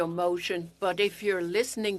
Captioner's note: speaking French